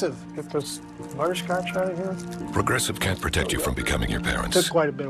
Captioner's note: wrapper crinkling